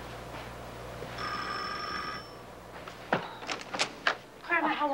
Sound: bell rings

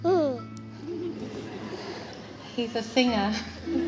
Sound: crowd chuckles

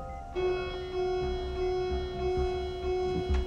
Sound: alarm blaring

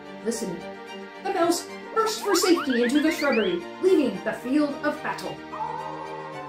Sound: wolf howl

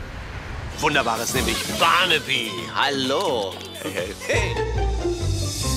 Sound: speaking foreign language

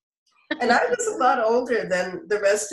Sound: laughter

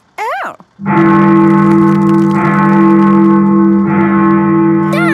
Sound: bell tolling

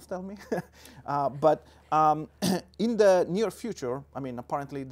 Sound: laughs

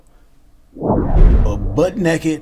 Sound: sound whooshing

